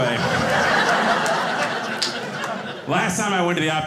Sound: audience laughing

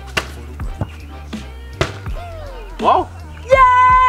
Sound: ball hitting board

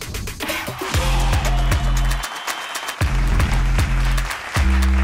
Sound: cheering

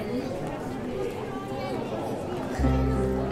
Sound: crowd chattering; tranquil piano music

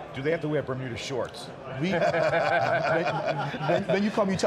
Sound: laughs

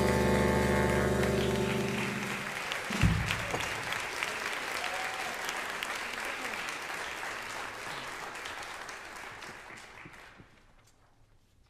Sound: audience applause

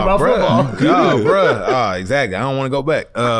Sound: laughs

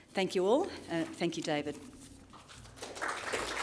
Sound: applause

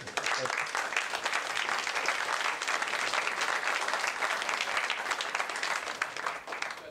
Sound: applause

